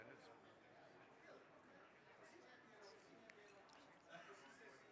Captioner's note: crowd chattering